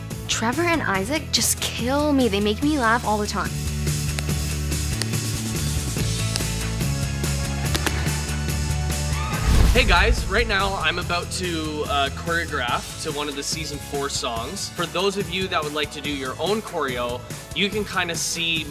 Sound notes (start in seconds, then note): 3.4 audible taps of tap shoes